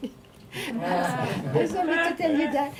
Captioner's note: audience laughing; laughing